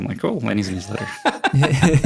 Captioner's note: all laugh